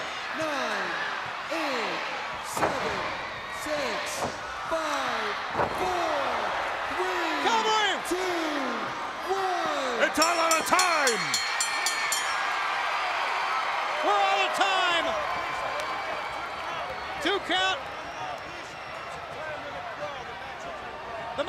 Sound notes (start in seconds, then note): 10.1 bell ringing; 11.8 crowd cheering